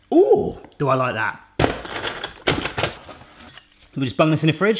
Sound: loud slamming

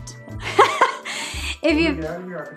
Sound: laughs

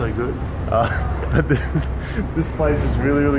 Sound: laughs

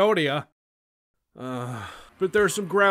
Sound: sigh

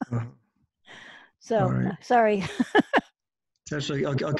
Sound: laughs

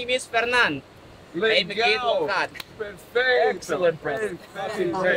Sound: speaking in foreign language

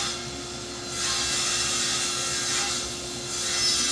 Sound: tool whirring

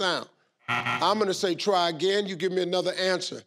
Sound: buzzer beeps

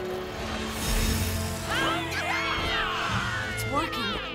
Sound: all cheering

